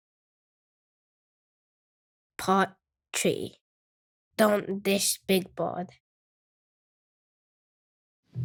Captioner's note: soundbite of tv show, "sesame street"